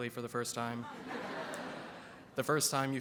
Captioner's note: audience laughs